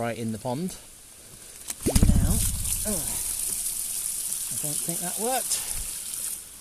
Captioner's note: pop; slurp slurp slurp